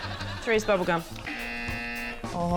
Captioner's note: buzz!